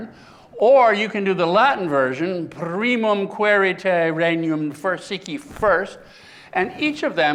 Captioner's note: speaking latin